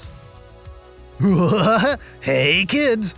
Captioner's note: Krusty-esque laugh